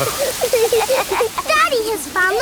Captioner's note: laughing